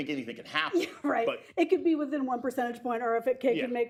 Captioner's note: laughs